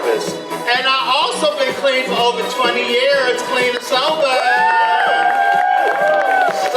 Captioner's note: audience applause